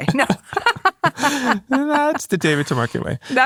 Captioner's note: both laughing